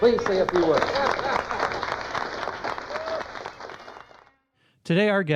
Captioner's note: applause